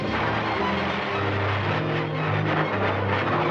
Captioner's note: blasting